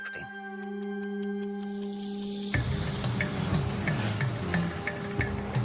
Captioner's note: stopwatch ticks